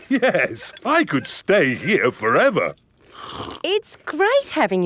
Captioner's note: slurps